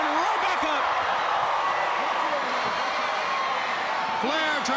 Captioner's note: crowd cheering